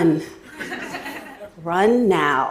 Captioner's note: Laughter; 笑聲